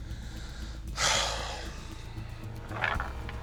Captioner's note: sighing; tense music